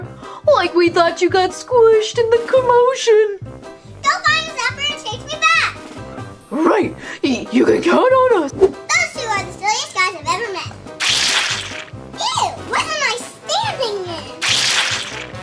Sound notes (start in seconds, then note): 11.0 slime squishes